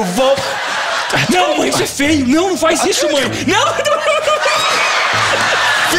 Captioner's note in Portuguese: risos